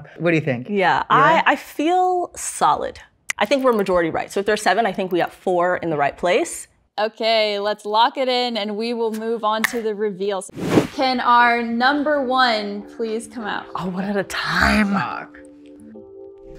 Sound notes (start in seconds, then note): 10.5 air whooshing